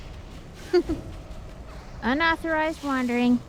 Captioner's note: giggles